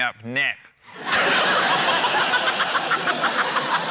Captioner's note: laughter